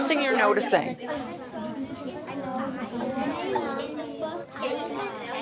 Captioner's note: children chattering